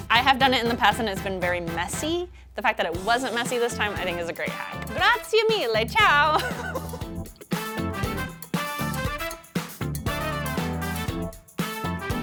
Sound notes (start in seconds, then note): 5.2 speaking in Italian; 6.1 laughing; 8.4 upbeat music